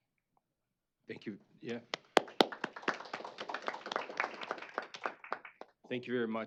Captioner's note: applause